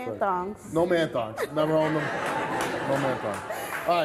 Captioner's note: audience laughing